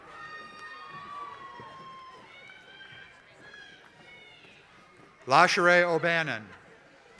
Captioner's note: applause